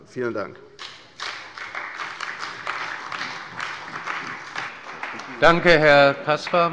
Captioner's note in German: Beifall bei der CDU und dem BÜNDNIS 90/DIE GRÜNEN